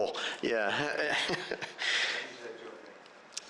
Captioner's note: chuckles